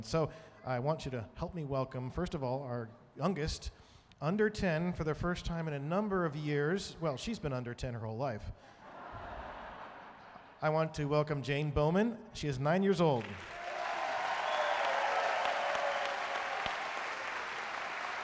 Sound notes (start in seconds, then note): 8.8 audience laughing; 13.2 audience cheering and applauding